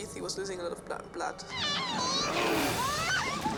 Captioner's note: screaming